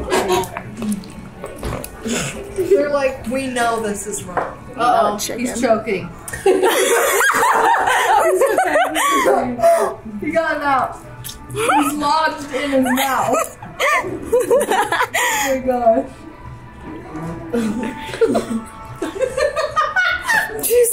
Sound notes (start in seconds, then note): 6.4 girls laugh; 12.5 laughs; 17.5 laughs